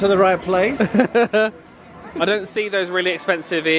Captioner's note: laughs